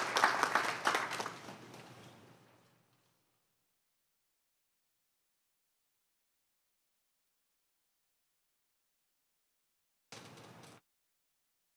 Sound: applause

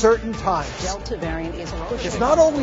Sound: news playing in the background

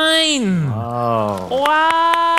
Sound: applause

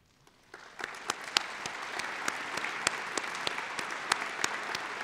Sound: applause

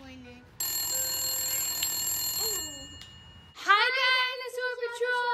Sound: phone rings

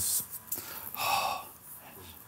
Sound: sighs

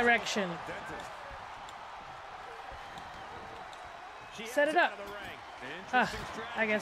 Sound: applause

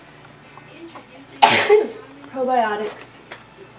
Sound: sneezes

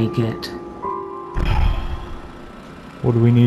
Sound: sigh

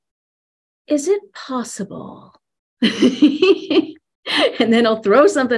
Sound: laughs

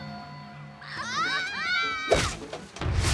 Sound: screaming

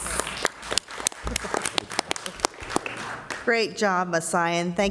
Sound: applauding

